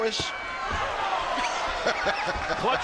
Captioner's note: laughs